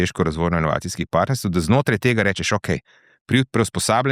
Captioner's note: none